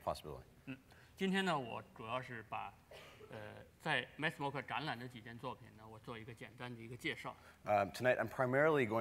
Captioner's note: speaking in Chinese